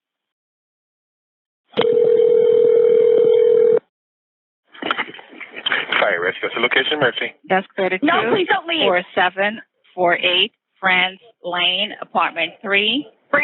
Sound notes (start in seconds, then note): 1.8 phone rings